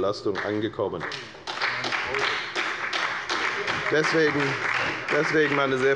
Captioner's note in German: Beifall bei der FDP und bei Abgeordneten der SPD